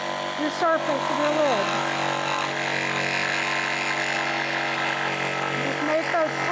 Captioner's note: sawing